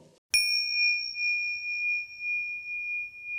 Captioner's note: bell dinging